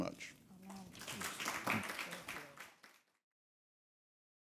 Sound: people clapping

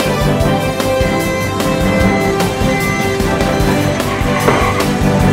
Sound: car beeping

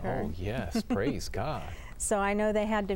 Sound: laughter

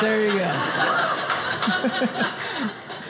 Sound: audience laughing

